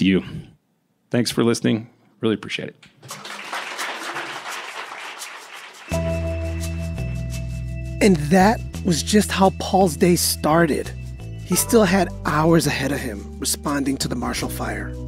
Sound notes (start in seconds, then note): 3.0 applause